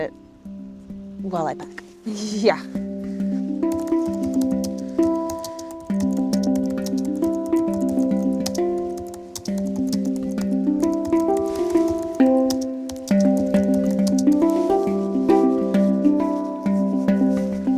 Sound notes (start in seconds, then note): 0.2 gentle music; 3.7 keys clacking